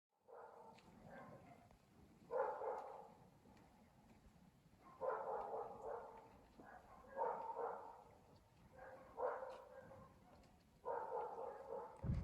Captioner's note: dog barking